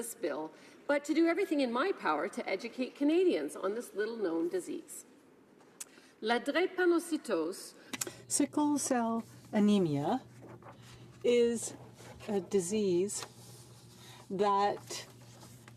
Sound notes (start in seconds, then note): 11.8 speaking in French